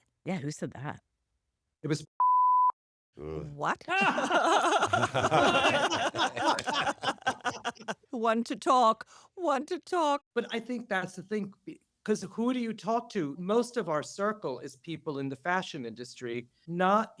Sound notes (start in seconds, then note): 3.6 laughing; 3.9 laughter